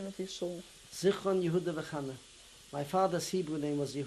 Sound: non-english

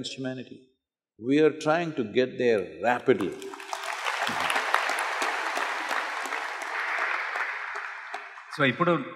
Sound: applause

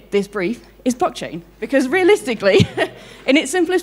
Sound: chuckles

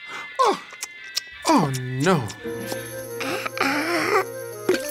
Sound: gasps

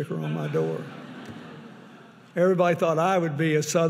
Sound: audience laughing

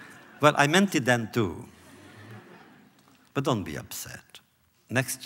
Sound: laughter

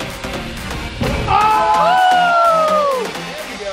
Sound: cheers

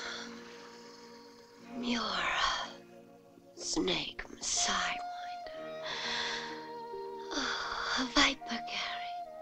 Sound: whispering

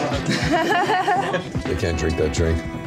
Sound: laughter

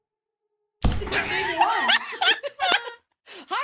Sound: thud; laughs

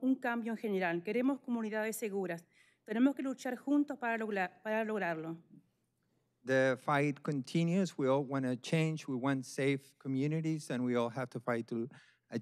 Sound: speaking spanish

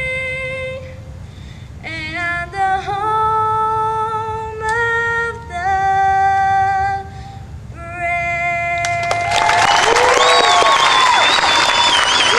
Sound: audience clapping

